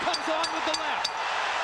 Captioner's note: bell dings